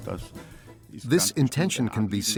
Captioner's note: speaks in German